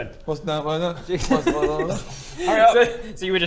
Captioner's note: mumbles; mumbles